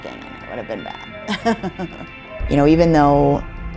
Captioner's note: laughs